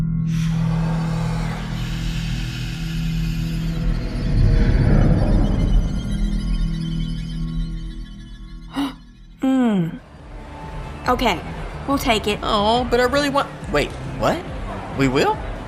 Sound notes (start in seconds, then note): 3.3 incubus roars; 8.7 Charlene gasps